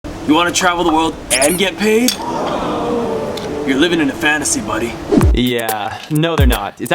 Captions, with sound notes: - You wanna travel the world and get paid? (audience gasps) You're living in a fantasy, buddy. Yeah, no they're not.